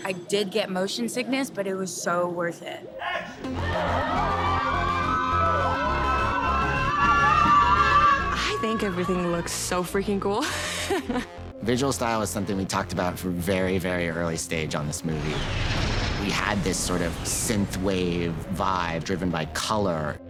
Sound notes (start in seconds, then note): 3.5 screams